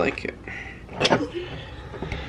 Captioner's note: chuckles